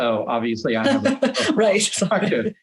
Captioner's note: laughs